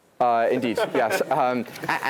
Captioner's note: laugh